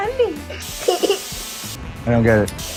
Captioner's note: laughter